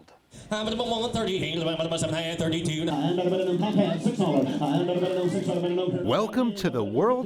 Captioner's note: rapid Auctioneer chant